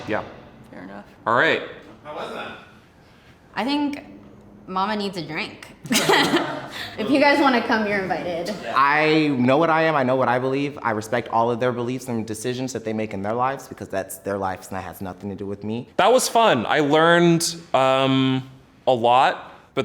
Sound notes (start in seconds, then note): 5.9 laughing